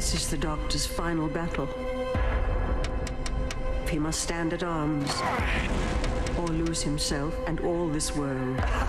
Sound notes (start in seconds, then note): 2.8 tapping